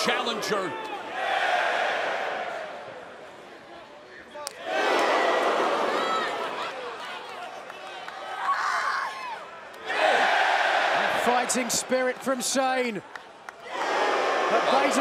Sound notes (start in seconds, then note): 2.4 crowd chatter; 4.4 crowd cheering